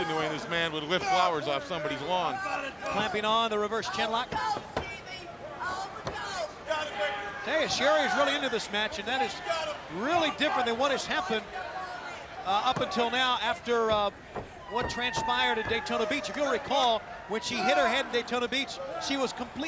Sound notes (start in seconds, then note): 5.8 crowd chatter